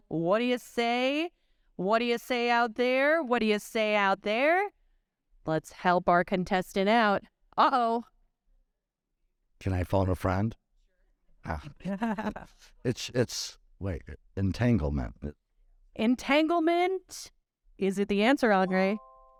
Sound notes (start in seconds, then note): 11.8 chuckling; 18.9 bright chime